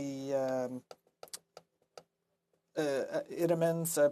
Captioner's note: speaking French